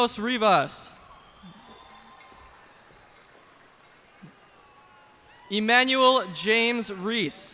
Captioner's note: cheers and applause